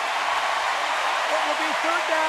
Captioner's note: cheering